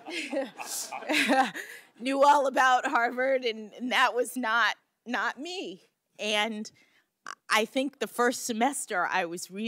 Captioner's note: laughter